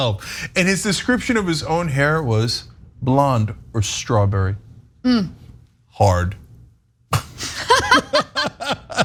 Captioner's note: laugh